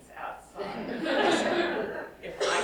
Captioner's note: laughs